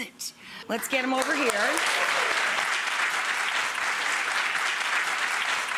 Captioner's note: audience woots and claps